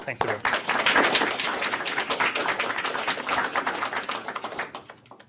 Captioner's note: applause